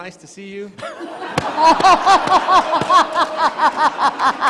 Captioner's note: all laughing